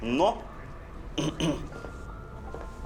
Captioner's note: clears throat